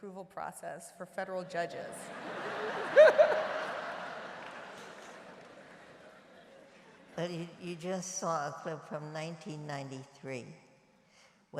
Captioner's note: laughter